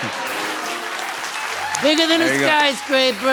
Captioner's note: laughter